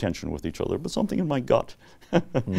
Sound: laughs

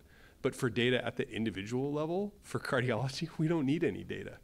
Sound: laugh

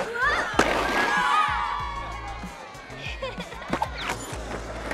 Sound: children cheering; girl giggling

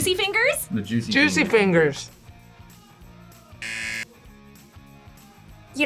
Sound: buzzer

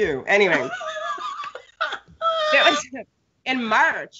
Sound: Brennan laughs

